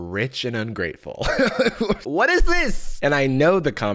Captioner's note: laughs